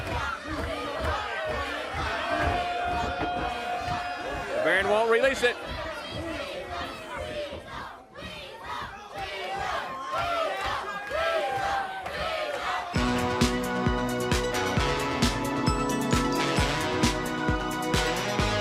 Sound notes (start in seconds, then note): 5.5 crowd cheering